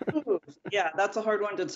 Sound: laughter

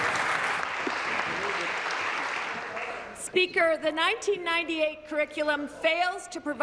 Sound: applause

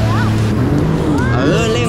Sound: engine rumbling

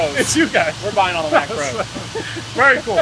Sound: giggles maniacally

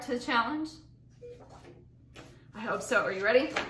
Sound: beeping

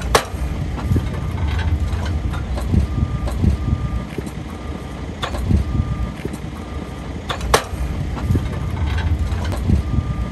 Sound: sound of construction workers

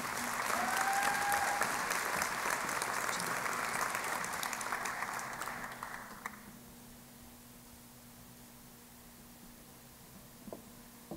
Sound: applause

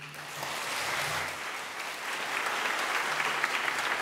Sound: audience claps

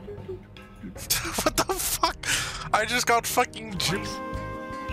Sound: humming a tune; chuckling

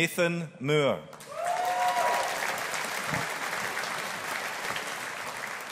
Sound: audience applauding

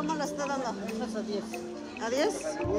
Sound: vendor replies in spanish; speaking spanish; vendor replies in spanish

